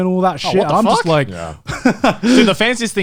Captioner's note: laughs